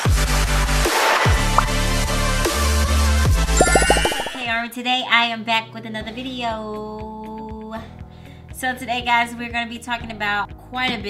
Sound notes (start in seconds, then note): 0.8 bubbles popping